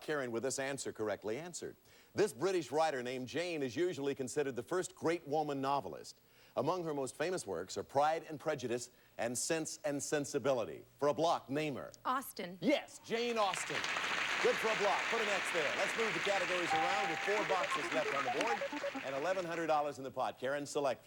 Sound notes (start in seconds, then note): 13.4 audience applauding